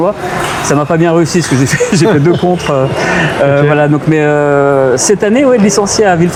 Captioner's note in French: raclement de gorge